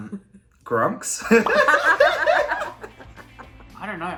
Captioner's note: laughing